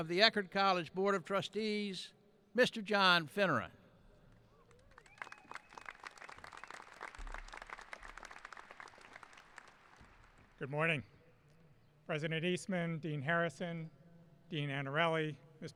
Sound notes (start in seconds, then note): 4.5 applauding